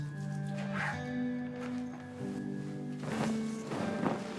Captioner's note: hands rubbing; zipper clattering; sheet popping